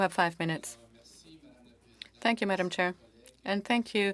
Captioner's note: speaking French